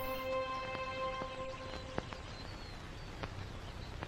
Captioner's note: birds chirping